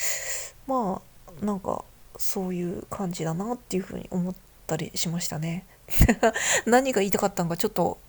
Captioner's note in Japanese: 笑い